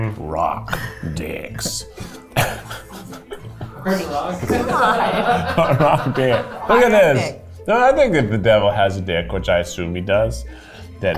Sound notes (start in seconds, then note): 1.9 laughs; 6.0 laughing